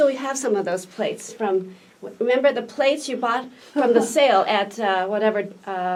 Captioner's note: laughs